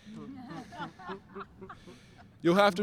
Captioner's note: everyone laughing